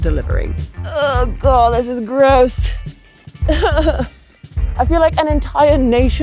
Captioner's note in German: lacht